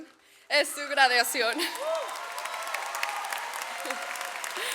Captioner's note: audience applauds; laughs